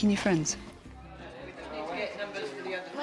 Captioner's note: background chatter